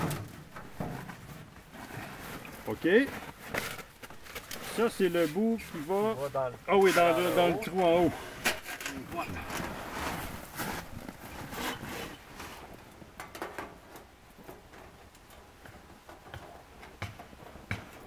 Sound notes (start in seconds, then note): 7.9 in french